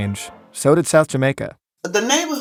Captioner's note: soundbite of archived recording